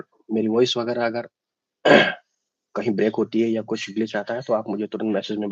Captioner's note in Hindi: गला साफ़ करने की आवाज़